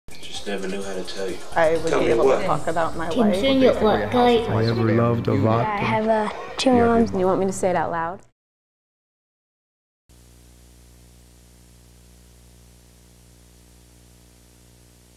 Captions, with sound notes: - [Voiceover] I just never knew how to tell you. - [Voiceover] I would be able to talk about my life. - [Voiceover] I have two moms. - [Voiceover] Do you want me to say it out loud? (static hum)